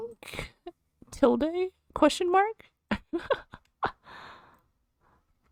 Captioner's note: laughs